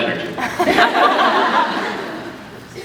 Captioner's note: laughs